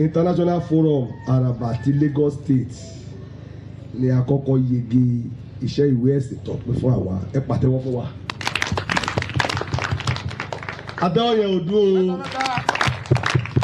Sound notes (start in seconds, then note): 8.3 round of applause